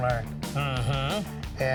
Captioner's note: murmurs approval